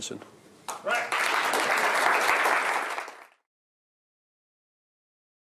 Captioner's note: applause